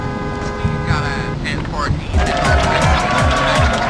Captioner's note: horns blaring